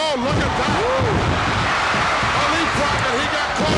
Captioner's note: audience cheers